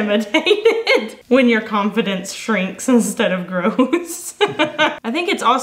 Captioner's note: laughs